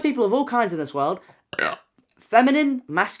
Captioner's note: burps